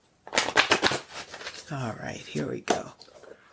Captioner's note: cards clattering